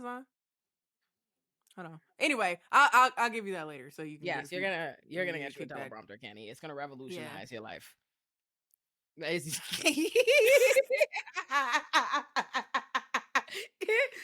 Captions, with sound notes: Hold on, anyway, I'll give you that later. So you can do it. Yeah, so you're gonna get your teleprompter Kenny, it's gonna revolutionize your life. (laughs)